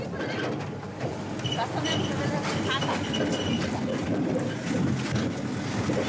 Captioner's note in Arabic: الناس يتحدثون بشكل غير واضح